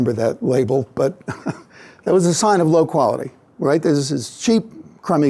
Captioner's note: laughs